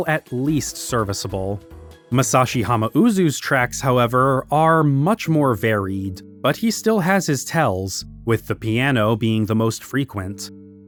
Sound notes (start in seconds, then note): none